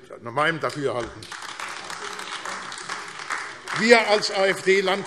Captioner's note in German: Beifall AfD